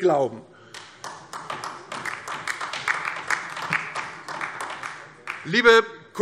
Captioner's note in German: Heiterkeit und Beifall DIE LINKE